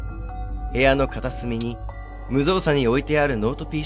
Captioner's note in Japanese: パソコンの電源を入れる音